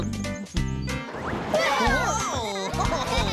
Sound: laughing & Giggling

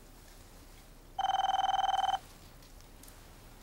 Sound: phone ringing

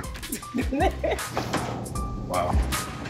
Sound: laughs

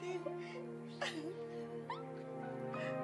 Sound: both chuckling

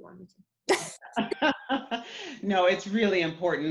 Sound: laughing

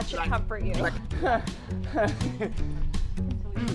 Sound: panicked Panting

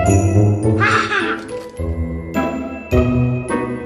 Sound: cackles

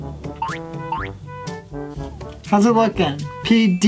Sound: cartoon boink

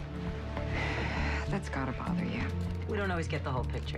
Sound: sighs

